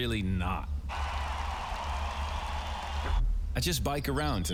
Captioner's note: loud cheering